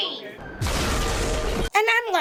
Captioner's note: explosion